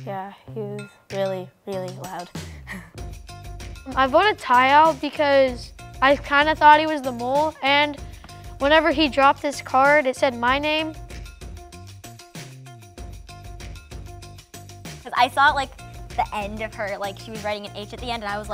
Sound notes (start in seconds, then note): none